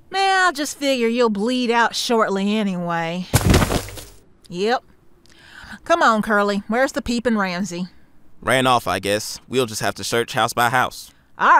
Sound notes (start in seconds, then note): 3.3 body thuds onto the ground